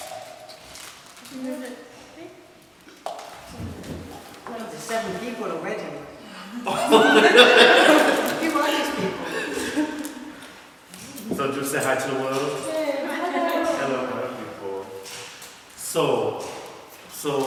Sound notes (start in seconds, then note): 6.6 laughter